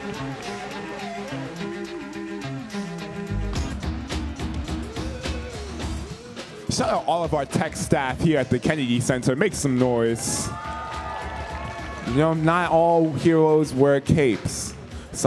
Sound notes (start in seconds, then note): 3.6 upbeat music; 10.0 audience cheering